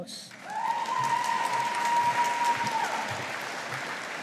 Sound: audience applauding

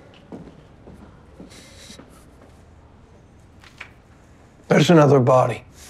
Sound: door opens

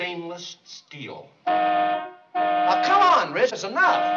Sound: horn honks

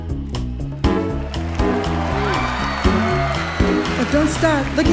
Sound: audience clapping

